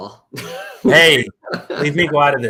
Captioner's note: laughter